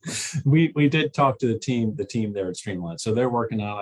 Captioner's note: laughter